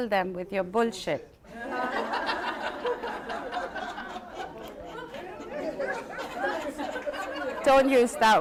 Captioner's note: laughter